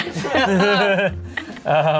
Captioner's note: all laugh